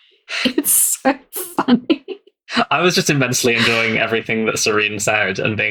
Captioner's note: laughing